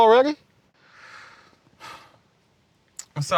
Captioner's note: sighs